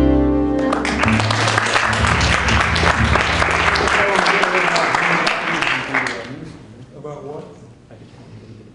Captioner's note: applause